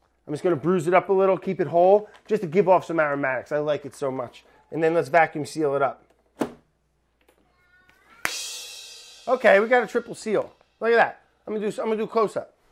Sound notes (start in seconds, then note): 7.8 clapping; 8.2 cymbal crashing